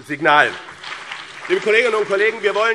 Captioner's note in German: Beifall BÜNDNIS 90/DIE GRÜNEN und CDU